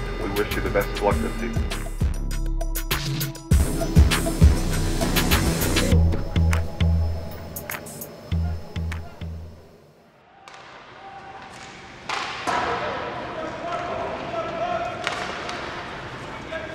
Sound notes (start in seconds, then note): 3.2 swanky music; 11.9 distant yelling